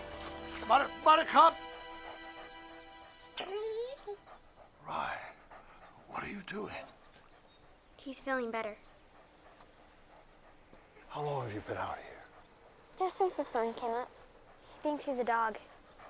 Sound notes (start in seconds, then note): 3.3 dog whines; 3.5 panting